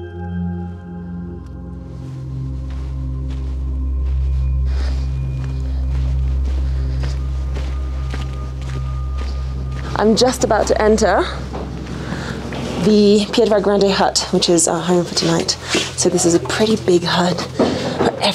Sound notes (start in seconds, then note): 5.5 foot steps